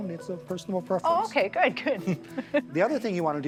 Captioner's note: laughter